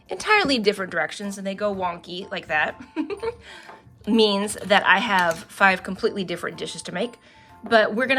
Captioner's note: laughs